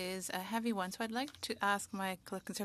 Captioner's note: speaking French